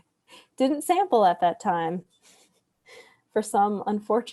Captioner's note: laughs